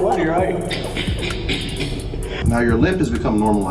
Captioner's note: cackling